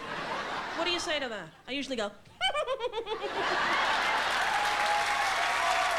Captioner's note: Betty Rubble giggle